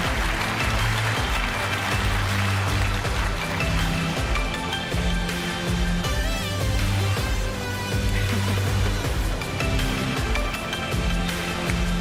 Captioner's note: applause